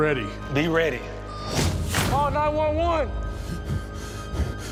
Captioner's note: heavy breathing